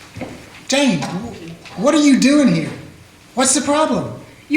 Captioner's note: none